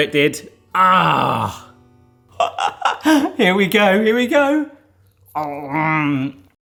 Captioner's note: laughing